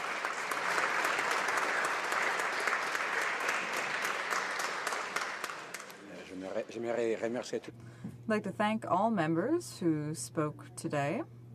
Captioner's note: applause